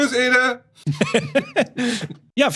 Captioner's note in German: Gelächter